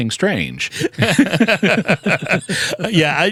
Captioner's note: laughter